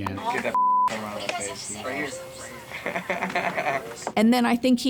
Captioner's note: beep; laughs